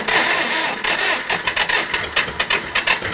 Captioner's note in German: Motorgeräusche